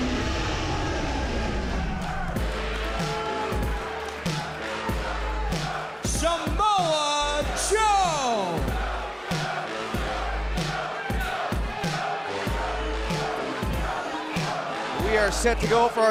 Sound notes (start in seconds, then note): 11.6 fans chanting